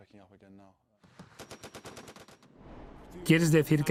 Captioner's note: gun firing; voiceover